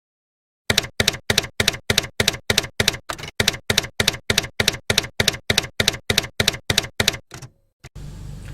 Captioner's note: typewriter keys clacking